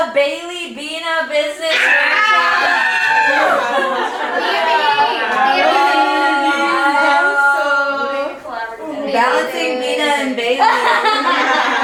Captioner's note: collective screams of excitement